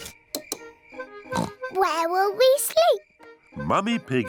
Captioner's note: oinks